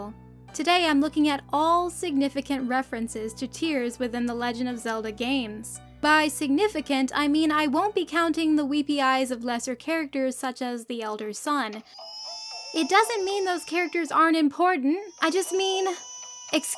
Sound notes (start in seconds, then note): 11.8 baby crying; 15.0 louder crying